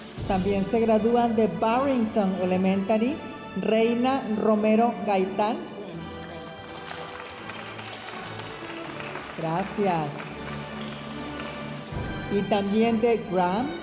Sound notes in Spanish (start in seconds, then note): 5.7 aplausos de la audiencia